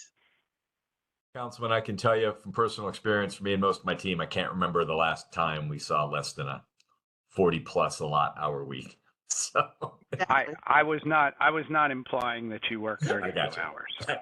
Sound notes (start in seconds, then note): 9.0 laughter; 13.9 laughter